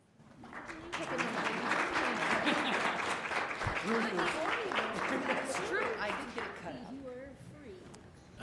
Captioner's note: applause